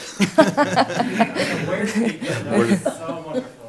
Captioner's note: laughing